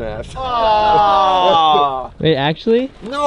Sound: groaning

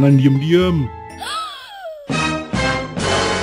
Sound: gasp

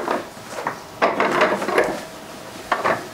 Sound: clattering

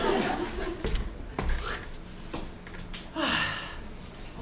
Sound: swishing of covers opening and closing; sighing

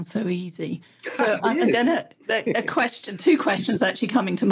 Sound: laughs

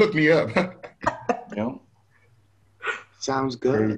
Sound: multiple speakers laugh

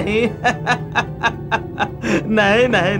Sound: laughs

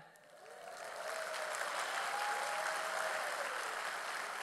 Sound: audience applauding

